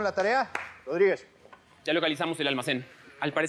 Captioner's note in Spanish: palmadas